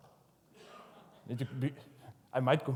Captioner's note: audience laughs